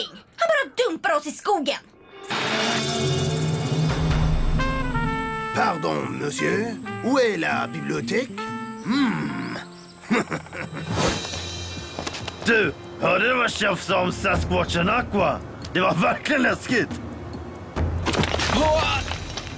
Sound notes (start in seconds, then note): 5.1 speaks french; 9.9 chuckles